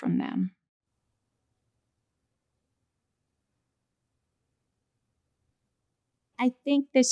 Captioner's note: silence